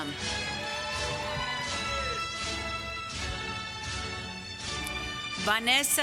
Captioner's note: applause